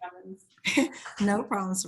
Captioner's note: laughs